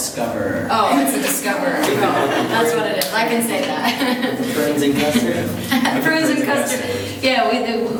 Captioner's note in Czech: smích